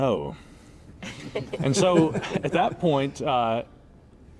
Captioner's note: all laughing